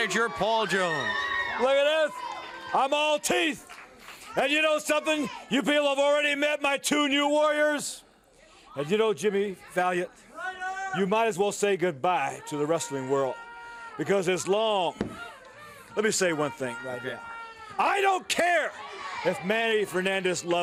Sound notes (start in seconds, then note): 2.7 crowd chatter